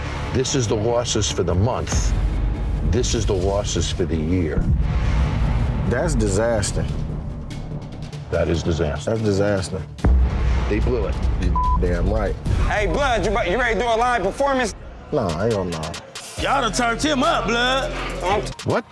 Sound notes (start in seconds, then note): 11.5 beep